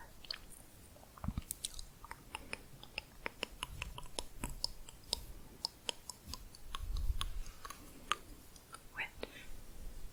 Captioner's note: tongue clicking, back of mouth